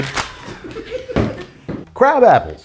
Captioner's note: people laughing